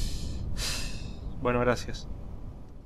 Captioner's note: sigh